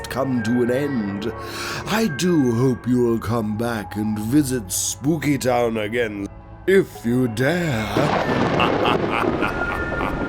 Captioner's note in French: à la fin, le rire diabolique se prolonge un peu et s'estompe